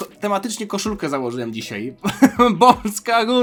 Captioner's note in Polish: śmiech